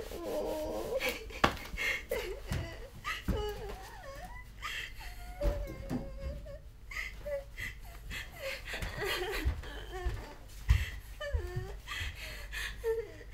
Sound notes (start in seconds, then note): 2.0 is crying in the background